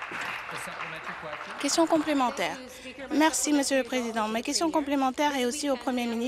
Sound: some applause

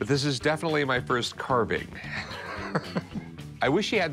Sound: chuckles

